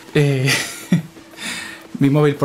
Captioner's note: giggles